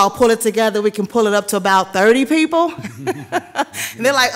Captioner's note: chuckles